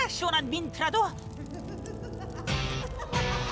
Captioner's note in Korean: 클린 비의 사악한 웃음